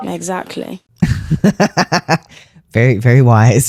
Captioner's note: laugh